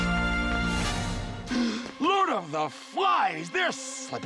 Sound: gasps

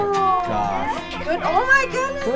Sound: laughing

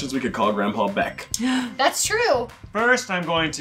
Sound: gasps

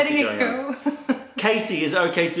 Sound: laughter

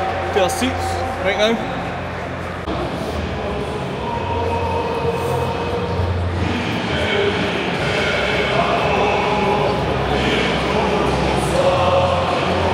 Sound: applause/Chanting

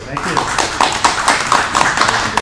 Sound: crowd claps

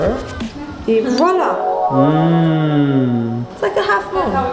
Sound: magic noise

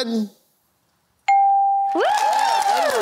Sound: cheering

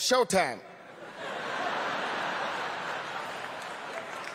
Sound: laughter; applause

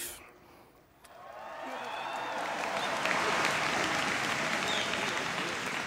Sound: applause

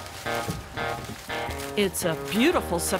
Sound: cornstalks rustling; bangboard thumps

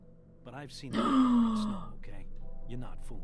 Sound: gasp

